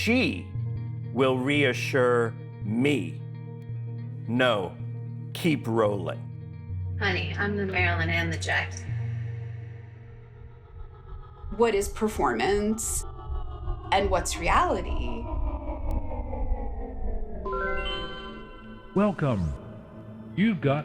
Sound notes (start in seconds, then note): 6.2 soundbite of tv show, "keeping up with the kardashians"; 15.5 soundbite of archived recording